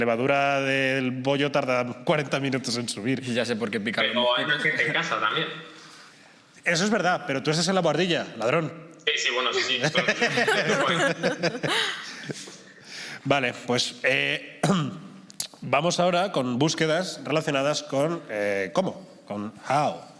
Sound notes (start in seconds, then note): 9.8 laughter; 14.6 clears his throat